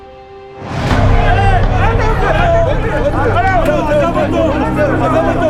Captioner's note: shouting in Arabic and Hebrew